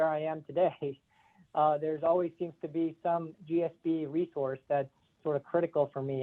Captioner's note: laugh